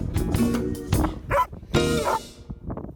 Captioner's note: dog barks